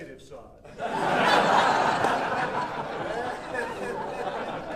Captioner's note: audience laughing